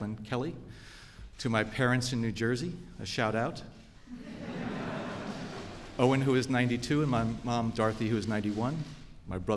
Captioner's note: laughter